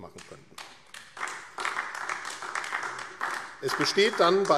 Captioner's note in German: Beifall AfD